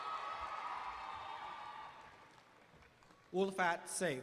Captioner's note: applause